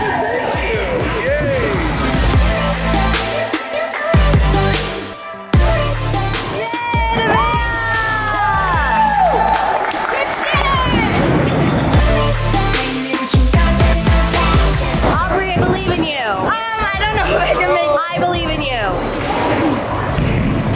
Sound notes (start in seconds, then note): 2.8 upbeat music; 8.3 cheering and clapping; 10.9 upbeat music